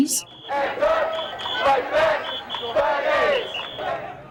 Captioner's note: crowd chants